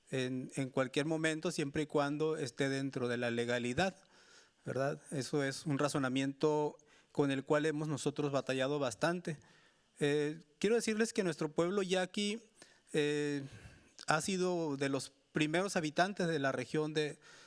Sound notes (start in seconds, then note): 10.3 speaking Spanish continues